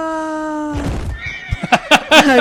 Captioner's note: horse Thud; Deep Guffaws from Bortigon; neighing in Pain